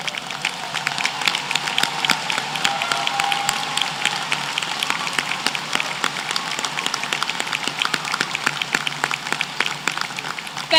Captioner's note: applause